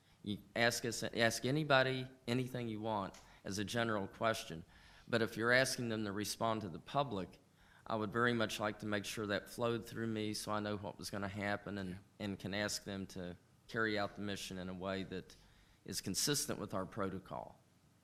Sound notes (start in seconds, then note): none